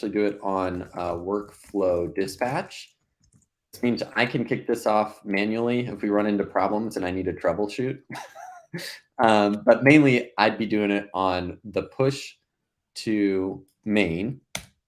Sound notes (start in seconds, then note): 8.1 laughs